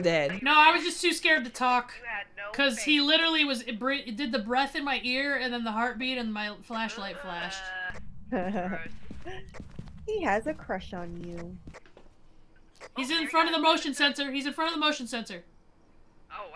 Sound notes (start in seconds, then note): 8.4 laugh